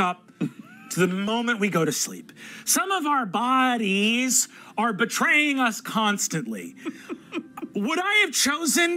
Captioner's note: laughs